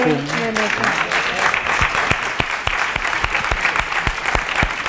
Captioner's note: applause